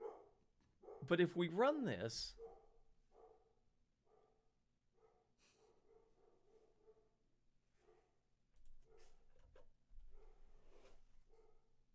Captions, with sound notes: But if we run this [dog barking loudly in background]